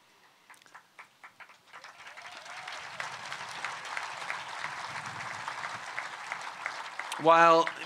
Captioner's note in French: Acclamations et applaudissements